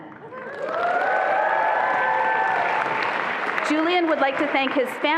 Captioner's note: attendees applauding and cheering